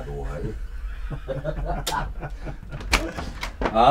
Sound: strange cackling

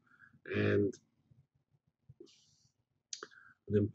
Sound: pause

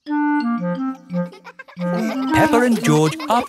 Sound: children laughing

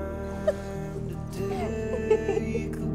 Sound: both laugh

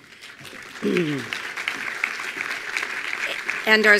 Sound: attendees applauding

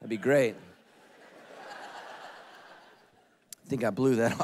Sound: congregation laughing

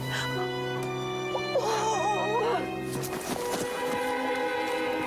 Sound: Gran groaning; slow dramatic music

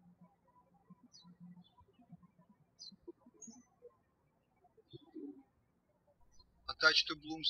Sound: birds chirping

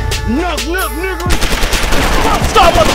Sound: gun firing

